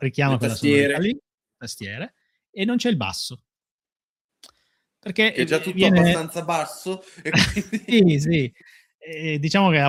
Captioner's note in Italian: risate